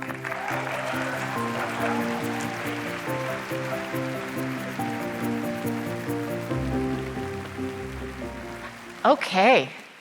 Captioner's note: applause